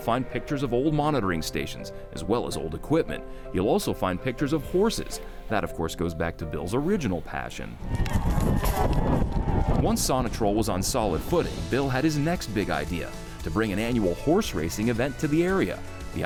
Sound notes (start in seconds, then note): 7.8 crowd cheering; 7.8 horse hoofs beating